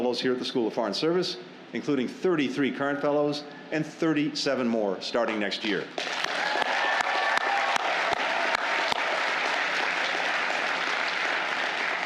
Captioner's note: applause